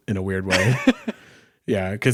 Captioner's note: laughing